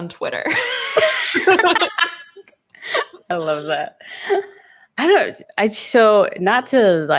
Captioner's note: laughs